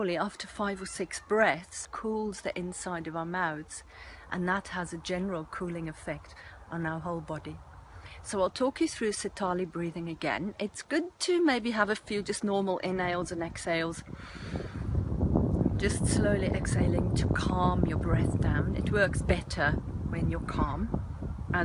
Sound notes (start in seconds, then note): 14.1 slow nasal inhalation